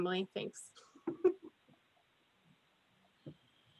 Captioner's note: giggles